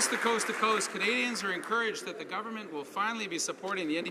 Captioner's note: some Applause